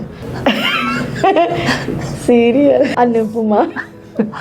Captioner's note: laughs